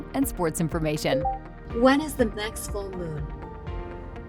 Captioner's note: VR System beeps